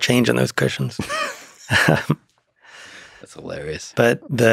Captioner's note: Lex laughing